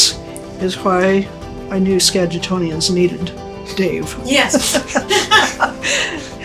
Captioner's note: laughter